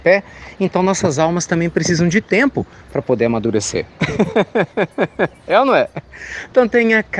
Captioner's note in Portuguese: Risos